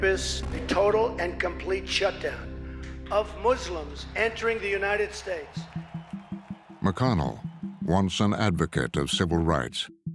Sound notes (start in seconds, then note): 3.8 crowd cheering